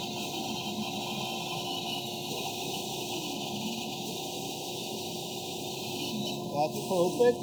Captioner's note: saw squeaking